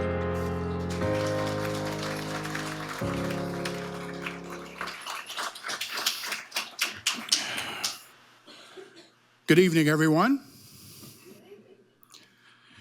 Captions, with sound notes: (audience applauding) - Good evening, everyone.